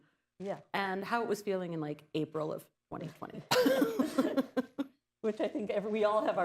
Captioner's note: laughter